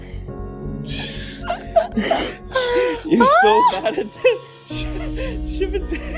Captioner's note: laughing